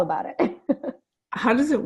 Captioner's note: laughing